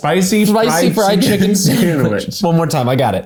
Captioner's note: laughs